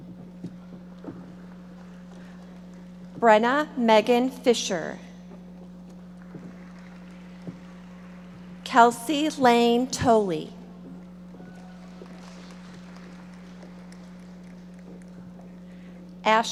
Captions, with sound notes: Brennah Meghan Fischer. (audience applauding) Kelsey Laine Toelle. (audience applauding)